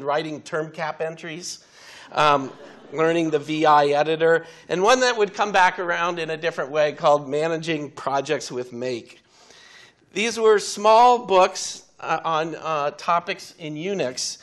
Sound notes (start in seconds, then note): 3.7 audience laughing